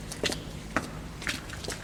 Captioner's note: footsteps